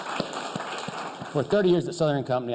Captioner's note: applause